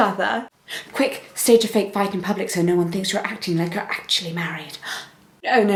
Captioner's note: gasp